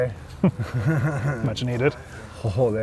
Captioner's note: laughing